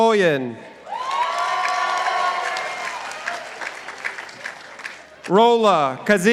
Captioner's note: participants applauding